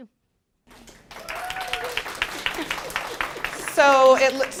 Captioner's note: applause